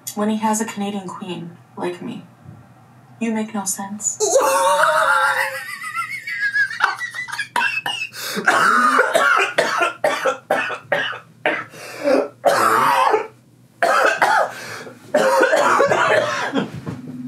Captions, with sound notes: when he has a Canadian queen like me? You make no sense. (laughs)